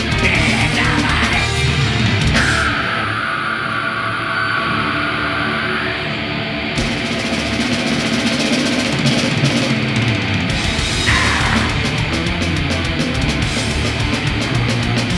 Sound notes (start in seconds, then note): 2.4 screaming; 10.9 screams